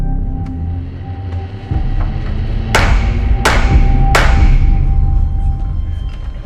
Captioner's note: gavel clacks